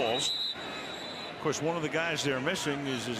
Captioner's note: whistle blowing